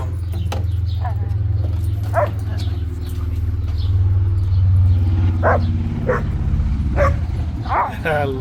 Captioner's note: large motorcycle driving